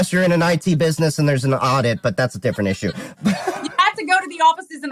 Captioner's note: laugh